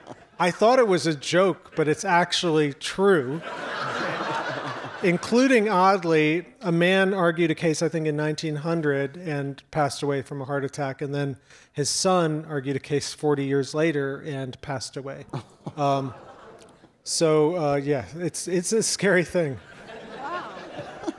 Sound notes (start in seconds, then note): 3.2 audience laughs; 15.6 audience murmurs; 19.5 audience laughs